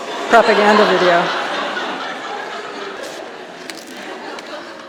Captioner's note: audience laughing